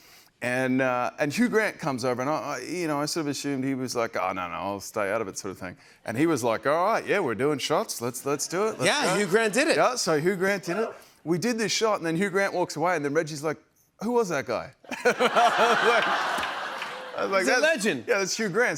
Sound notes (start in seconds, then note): 14.8 laughter